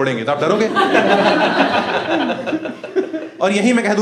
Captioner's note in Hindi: हँसना